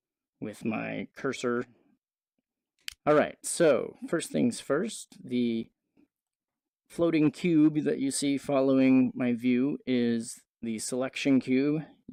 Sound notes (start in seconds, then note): 2.8 click